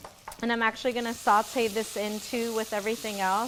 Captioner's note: pan sizzles